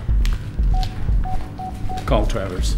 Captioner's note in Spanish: pitido del teléfono